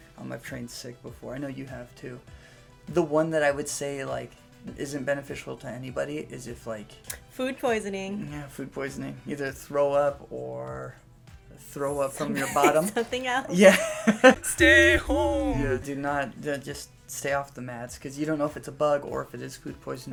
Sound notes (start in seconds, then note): 13.5 laughter